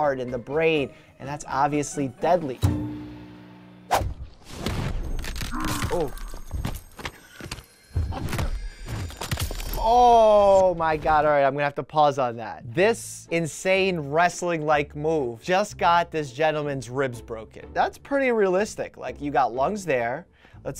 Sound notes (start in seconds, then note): 2.6 string plucking again; 2.6 swooshing; 5.2 bones cracking, grunting